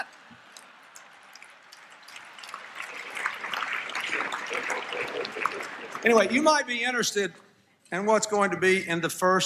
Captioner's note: applause, Laughter